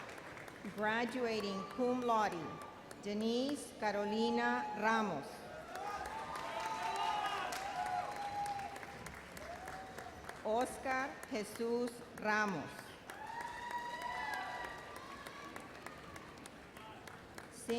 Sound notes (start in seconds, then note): 5.4 audience cheers and applauds; 13.0 cheers and applause